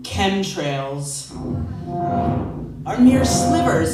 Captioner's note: loud white noise